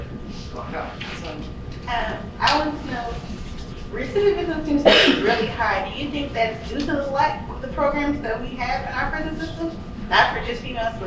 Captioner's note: coughing